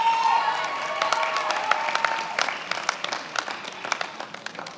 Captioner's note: many applauding